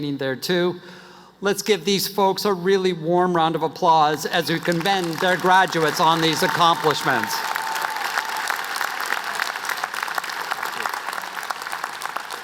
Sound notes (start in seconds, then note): 9.7 applause